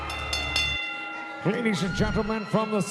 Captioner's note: audience cheering; bell rings